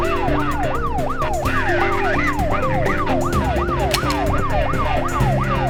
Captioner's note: police sirens blaring; dramatic music